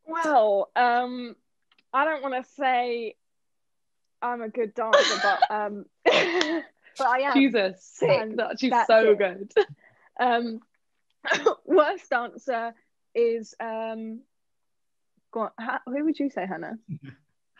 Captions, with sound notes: - Well, I don't want to say I'm a good dancer, but... (Hannah laughs) (laughs) But I am. - She's a sick, no, she's so good. - Worst dancer is... Who would you say, Hannah?